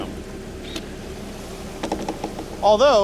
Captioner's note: motor wincing